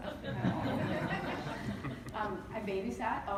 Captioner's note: laughter